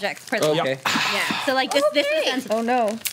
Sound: overlapping chatter

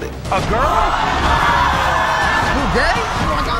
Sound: audience screaming

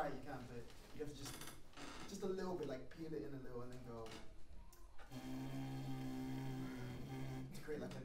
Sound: blows between lips

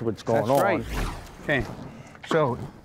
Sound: dramatic transition noises

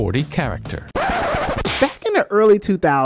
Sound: record Scratch

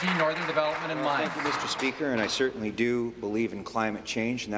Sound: applause

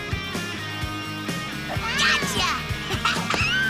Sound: laughing; meowing

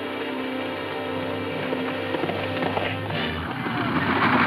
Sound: horses galloping; men shouting

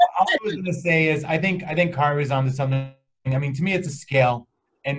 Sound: distorted sound

